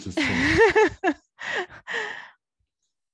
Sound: laughs

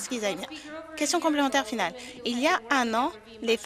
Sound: some Applause

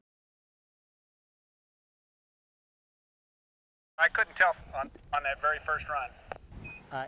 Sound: voice on radio

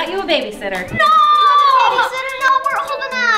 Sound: kids crying

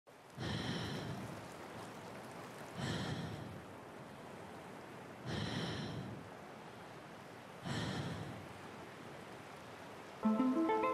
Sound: breathing, waves lapping

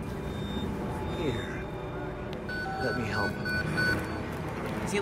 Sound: alerts go off

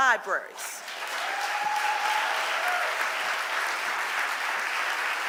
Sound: audience applauding

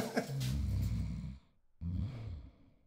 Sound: he chuckles; comfortable snoring

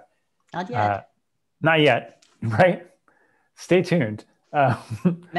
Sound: chuckles; laughs

